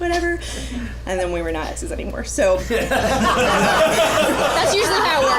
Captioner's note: laugher